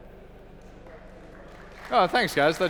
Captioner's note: applause